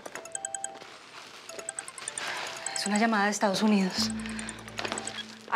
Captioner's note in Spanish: suena un celular